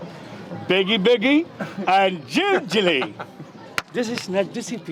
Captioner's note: non-english speech